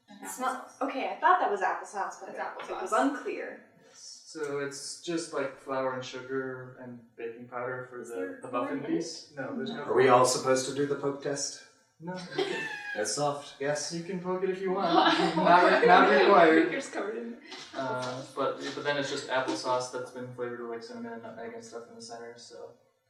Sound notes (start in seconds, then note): 14.8 laughter